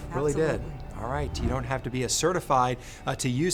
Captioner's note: graphics whooshing